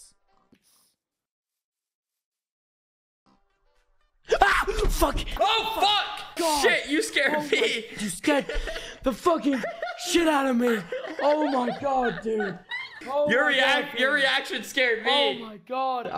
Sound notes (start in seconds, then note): 0.3 silence; 4.3 screams; 5.4 yelling; 7.1 laughing